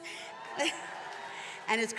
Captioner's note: attendees cheering and applauding